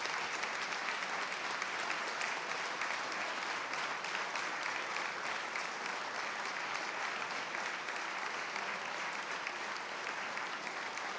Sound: applause

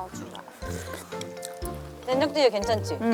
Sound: slurp

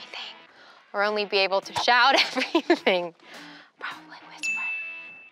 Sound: laughs

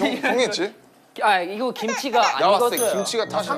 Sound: Kimchi: Crying

